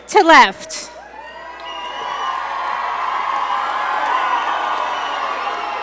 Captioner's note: audience cheer and applaud